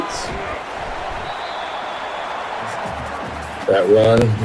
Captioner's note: crowd Noises